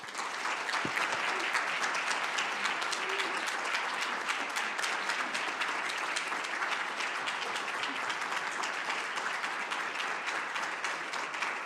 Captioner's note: applause